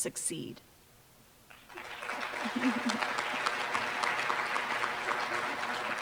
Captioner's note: applause